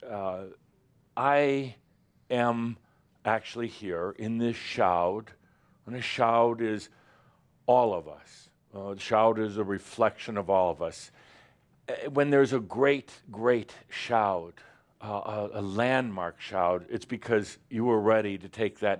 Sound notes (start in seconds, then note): none